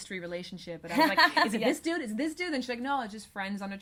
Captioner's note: laughs